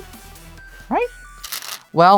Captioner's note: stones rattling